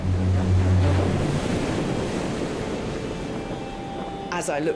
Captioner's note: dramatic music; waves crashing